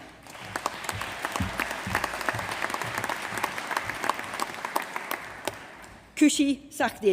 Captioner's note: applause